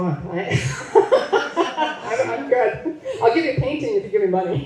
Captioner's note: laughs